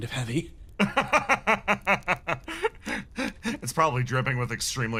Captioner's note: laugh